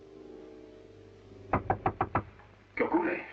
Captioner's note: knocking